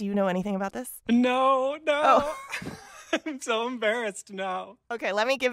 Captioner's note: laughter